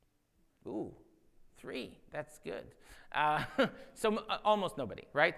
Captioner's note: laughs